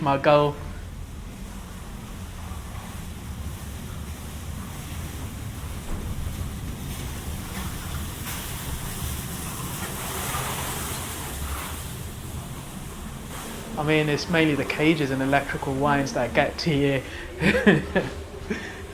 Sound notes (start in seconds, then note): 4.8 corridor noises of people and trollies; 17.1 laughs